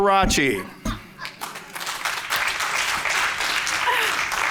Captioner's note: applause